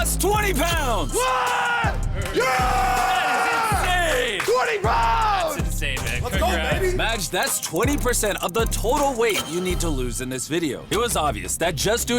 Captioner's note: screaming